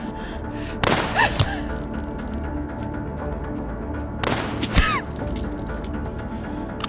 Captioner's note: gasping; gun firing